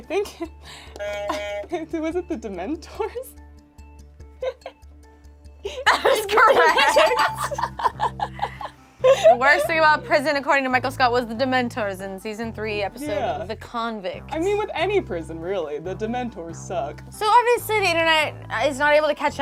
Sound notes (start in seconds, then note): 9.0 laughs